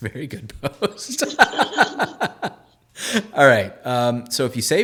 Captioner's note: laughing